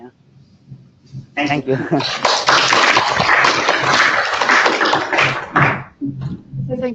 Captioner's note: applause